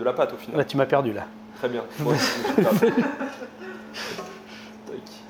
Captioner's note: laughs